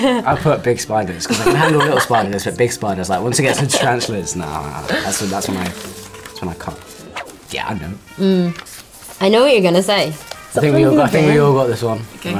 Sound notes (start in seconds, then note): 1.2 laugh; 1.3 laughs; 4.7 air whooshes